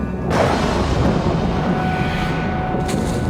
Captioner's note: thunder